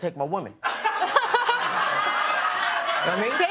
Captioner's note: laughter